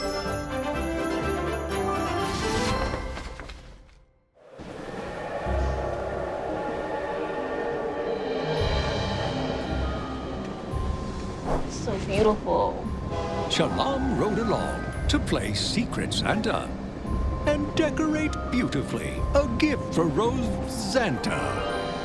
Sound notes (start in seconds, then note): 4.5 train whistle blowing; 6.7 train rumbling